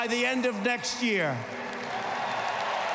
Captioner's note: applause